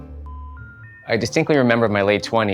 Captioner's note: phone beeping